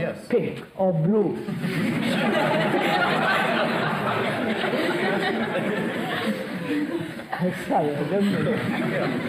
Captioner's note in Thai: หัวเราะ